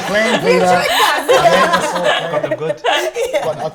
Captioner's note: laughter